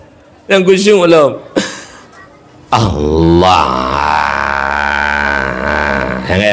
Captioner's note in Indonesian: tertawa